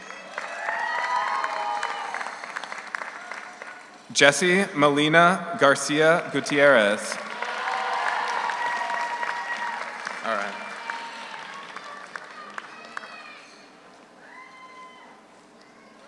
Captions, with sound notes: (audience cheers) (audience applauds) Jessie Melina Garcia Gutierrez. (audience cheers) (audience applauds) All right.